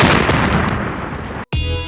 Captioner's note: explosion